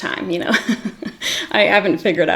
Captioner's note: giggles